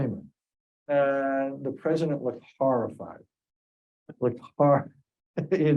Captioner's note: laughs